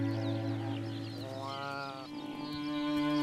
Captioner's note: bleating